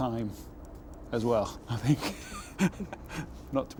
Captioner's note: laughs